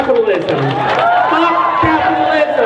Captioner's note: crowd cheers